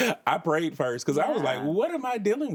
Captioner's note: laughs